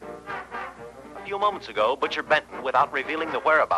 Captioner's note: faint jazz music; radio